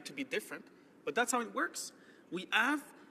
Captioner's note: speaking French